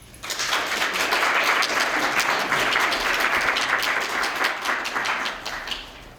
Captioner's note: applause